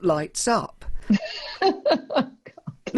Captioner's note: laughs